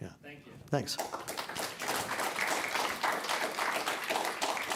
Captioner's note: applause